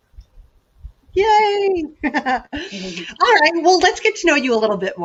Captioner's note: laughs